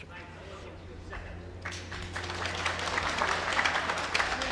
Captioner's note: clapping